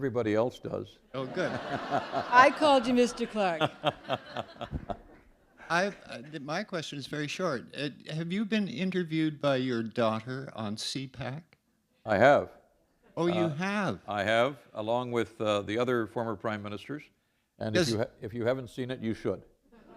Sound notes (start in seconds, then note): 1.2 laughter; 4.4 chuckle; 19.7 laughter